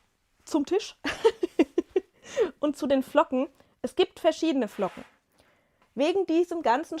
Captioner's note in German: gelächter